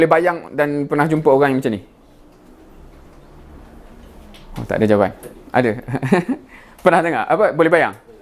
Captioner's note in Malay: ketawa